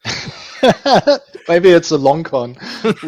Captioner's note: laughing